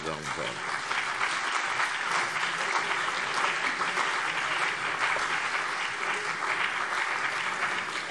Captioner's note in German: Beifall CDU und BÜNDNIS 90/DIE GRÜNEN